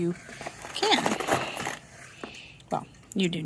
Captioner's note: box of screws shuffling